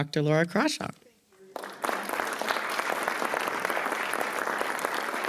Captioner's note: attendees applauding